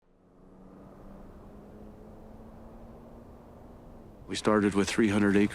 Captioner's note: car engine rumbling